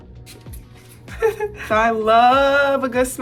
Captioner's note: Angel laughs